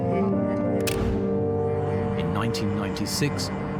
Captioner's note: slide clicks